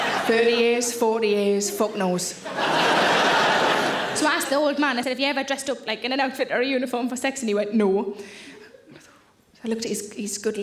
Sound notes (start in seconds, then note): 1.5 audience laughing